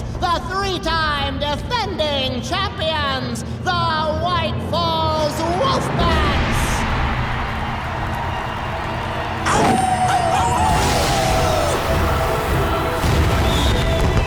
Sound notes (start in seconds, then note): 9.4 howling